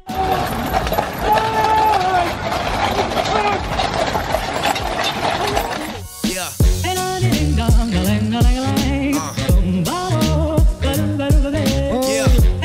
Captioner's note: horse trotting sounds